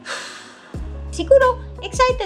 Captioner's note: sigh